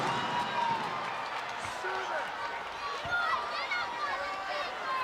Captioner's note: crowd cheering